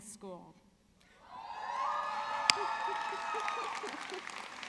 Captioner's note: audience cheering